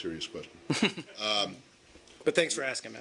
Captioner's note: laughter